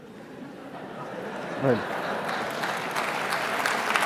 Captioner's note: applause and laughter